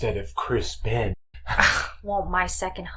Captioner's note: chuckles